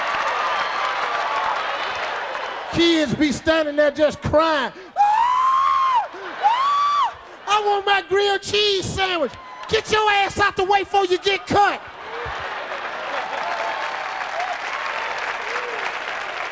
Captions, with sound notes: Kids be standing there just crying. (Steve screaming) "I want my grilled cheese sandwich." "Get your ass out the way before you get cut!" (audience laughing)